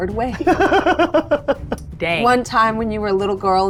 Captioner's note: laughing